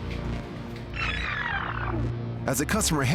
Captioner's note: rewinding